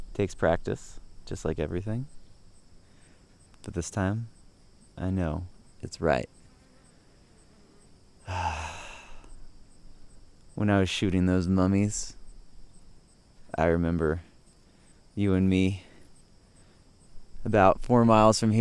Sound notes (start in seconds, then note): 8.2 sighing